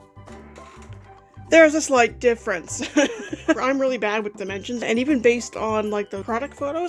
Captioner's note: laughs